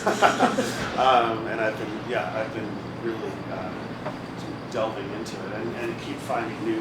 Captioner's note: laughs